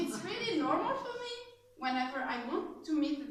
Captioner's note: laughs